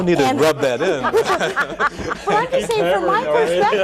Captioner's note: all laugh